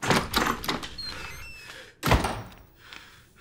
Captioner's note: panting